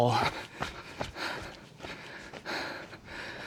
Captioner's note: heavy breathing